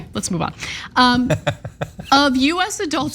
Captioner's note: laugh